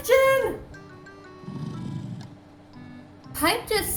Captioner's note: snoring